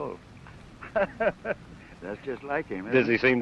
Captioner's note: laughter